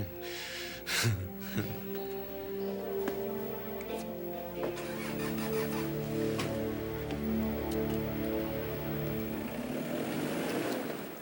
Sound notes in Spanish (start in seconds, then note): 4.4 motor acelerando